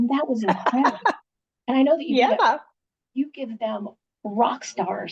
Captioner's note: laughing